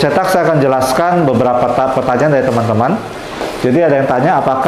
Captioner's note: printer machine sound